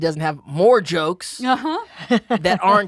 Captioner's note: chuckles